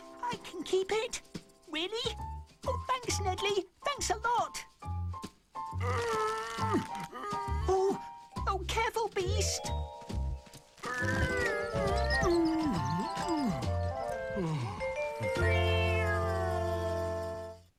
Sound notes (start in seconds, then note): 5.7 groaning; 10.8 groaning